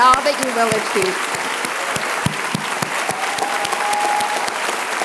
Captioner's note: applause